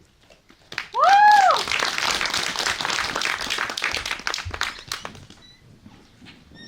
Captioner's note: applause